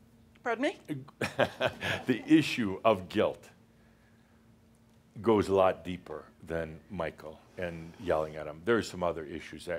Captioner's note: chuckles